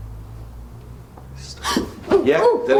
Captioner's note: rumbling faintly; gasps; whispering Voice